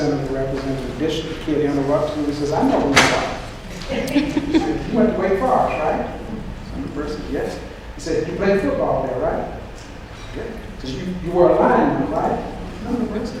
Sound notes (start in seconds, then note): 3.8 laughter